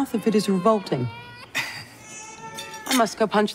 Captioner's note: baby crying